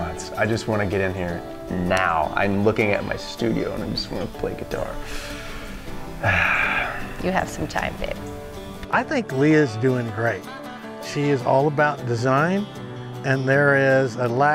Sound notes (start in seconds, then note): 5.0 sighs